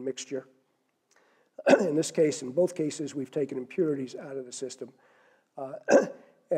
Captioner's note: cough; cough